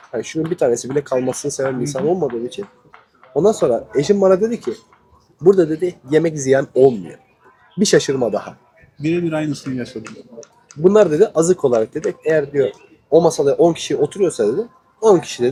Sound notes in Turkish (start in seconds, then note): none